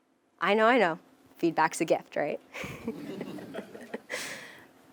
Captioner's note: laugh